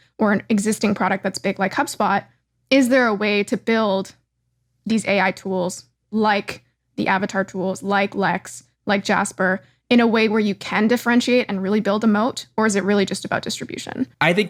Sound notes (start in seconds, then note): none